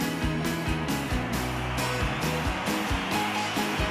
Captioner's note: cheering